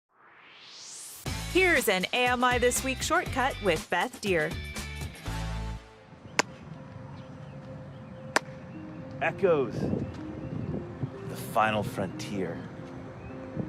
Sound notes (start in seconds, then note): 0.1 swoosh